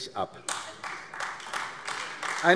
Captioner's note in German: Beifall AfD